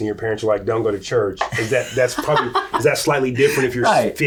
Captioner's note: laughs